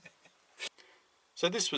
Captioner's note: laughing